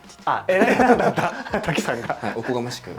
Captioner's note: laughs